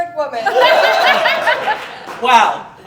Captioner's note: audience Laughing